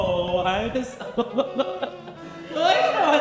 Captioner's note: laughs